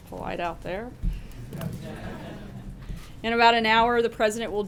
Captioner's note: laughter